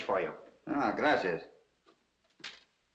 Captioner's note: in spanish